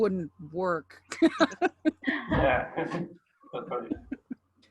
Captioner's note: laughter